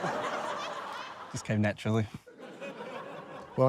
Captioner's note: laughter